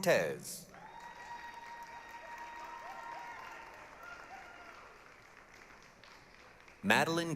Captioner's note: applause, cheering